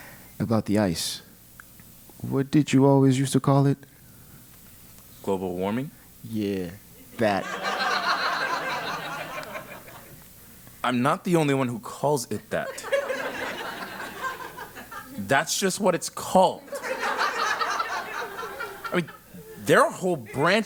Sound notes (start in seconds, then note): 7.4 laugh; 16.6 laugh